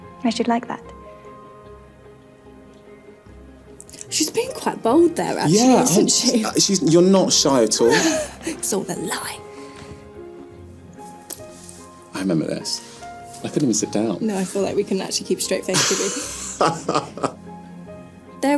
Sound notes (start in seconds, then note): 7.8 laughing; 10.7 classical music continues